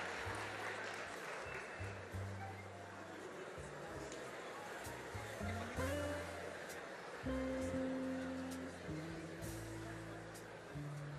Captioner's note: applause